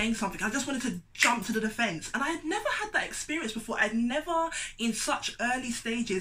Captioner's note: clicks